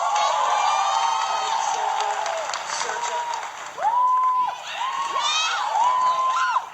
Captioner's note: applause and Cheering; audience cheering